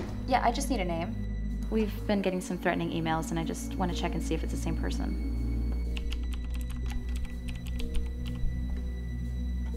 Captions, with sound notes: Yeah, I just need a name. We've been getting some threatening emails and I just want to check and see if it's the same person. [TYPING]